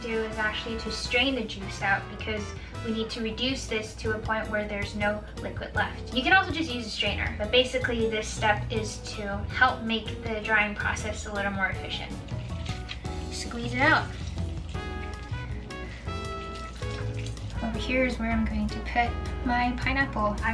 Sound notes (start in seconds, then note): 14.3 liquid sloshing